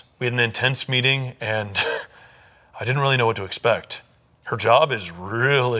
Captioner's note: laughing